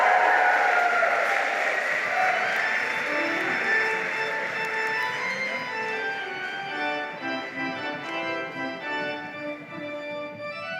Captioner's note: applause